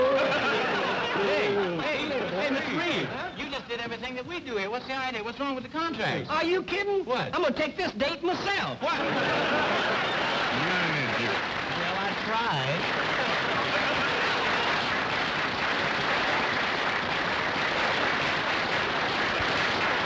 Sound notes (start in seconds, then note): 14.0 audience applauding